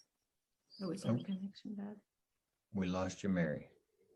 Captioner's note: panelists murmuring